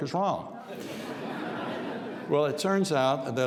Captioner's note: audience laughs